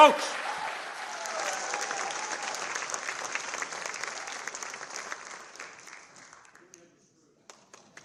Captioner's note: applause